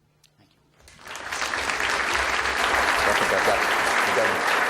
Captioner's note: audience applauds